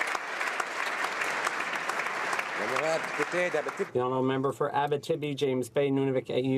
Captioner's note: applause